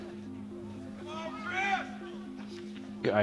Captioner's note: man shouting